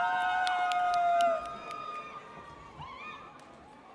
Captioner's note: audience cheers